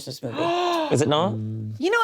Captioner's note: gasps